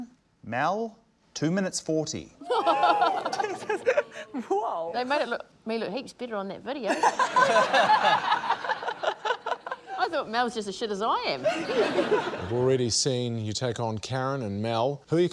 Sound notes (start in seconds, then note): 2.4 both laugh; 6.8 laughter; 11.4 laughter